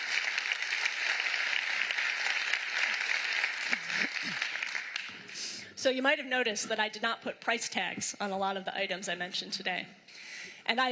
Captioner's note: applause